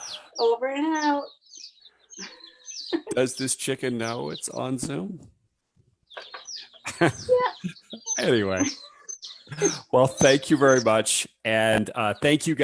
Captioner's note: laughs